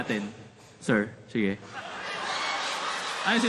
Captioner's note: laughter